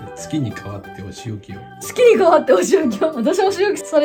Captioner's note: laughs